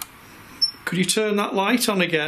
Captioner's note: machine beeps